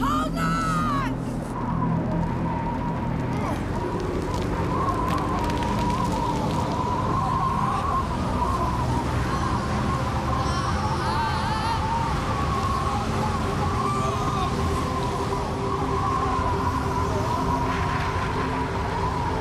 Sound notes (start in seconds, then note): 1.6 strong wind blows; 9.5 groans